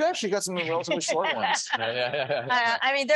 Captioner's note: laughing